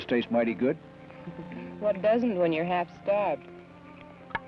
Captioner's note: chuckles